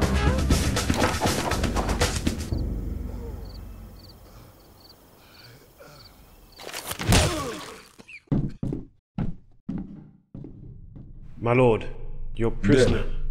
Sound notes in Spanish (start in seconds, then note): 7.0 disparo; 8.3 pasos